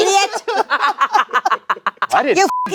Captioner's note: laughing; beep